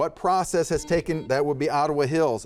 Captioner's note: buzzer buzzes